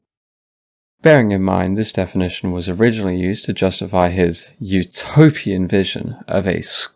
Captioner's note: sarcastic tone